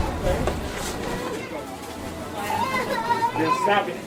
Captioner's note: toddler crying